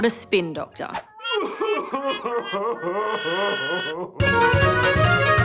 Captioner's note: sobs loudly